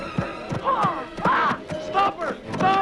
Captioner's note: Hundra shouts